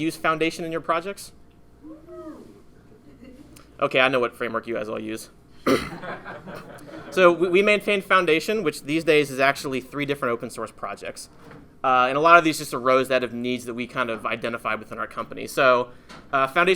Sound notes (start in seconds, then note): 2.1 audience hollers; 5.9 audience laughing